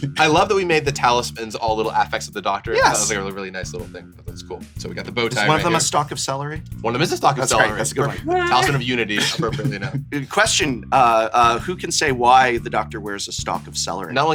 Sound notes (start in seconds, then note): 7.4 laughs; 7.4 chuckles